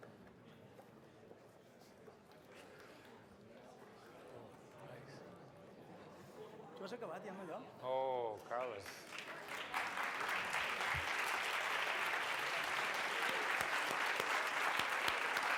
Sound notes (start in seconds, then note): 6.9 non-english speech; 8.4 applause